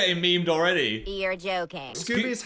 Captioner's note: cartoon Voice